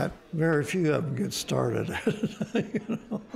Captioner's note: laughing